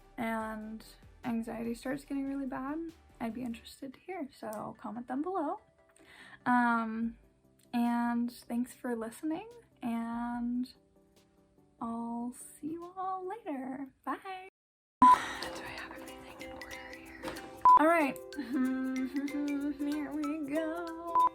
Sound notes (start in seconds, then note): 15.4 whispers; 19.0 nervous noises